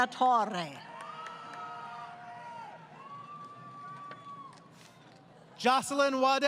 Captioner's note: crowd Cheering